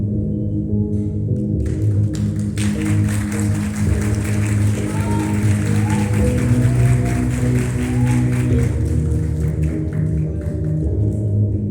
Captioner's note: applause